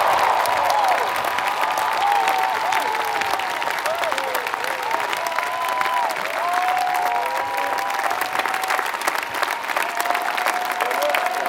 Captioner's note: applause